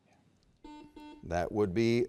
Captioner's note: buzzer beeps